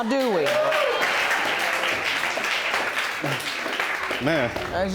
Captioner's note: audience clapping; audience exclaiming